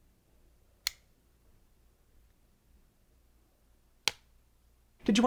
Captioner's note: light clicks; clapboard clicks